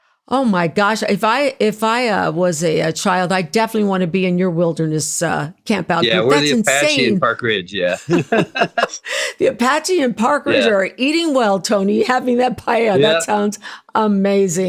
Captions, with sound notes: Oh my gosh, if I was a child, I definitely Sylvia wanna be in your wilderness camp out here. That's insane. Yeah, we're the Apache and Park Ridge, yeah. (Laughing) The Apache and Park Ridge are eating well, Sylvia Tony, having that paella, that sounds amazing.